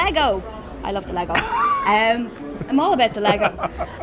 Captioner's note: laughing